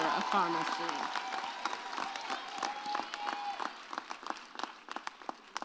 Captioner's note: audience cheers